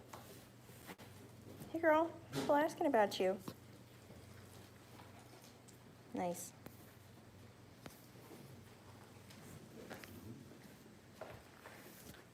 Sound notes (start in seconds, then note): none